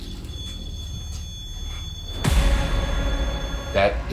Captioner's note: REM pod beeping